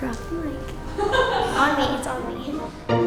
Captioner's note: laughing